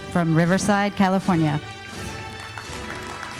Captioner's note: applauding